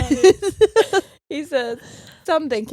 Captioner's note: laughing